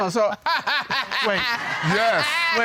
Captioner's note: laughs